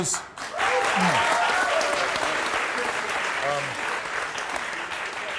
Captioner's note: audience clapping